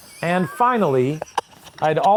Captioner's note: laughing